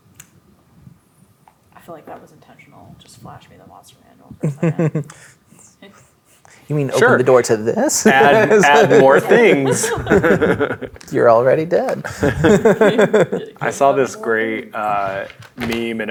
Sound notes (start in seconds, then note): 7.9 players laughing; 14.8 speaking quietly